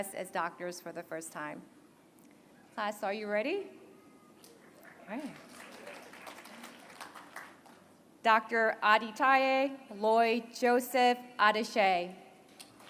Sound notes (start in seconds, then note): 4.7 applause